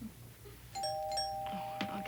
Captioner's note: doorbell